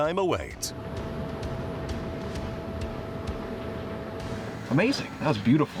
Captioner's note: plane whirling